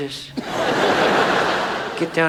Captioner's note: audience laughs